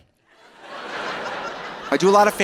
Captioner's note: audience laughing